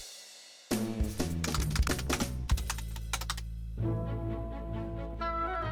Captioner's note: percussion riff; keyboard typing